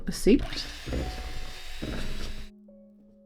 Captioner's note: machinery whirring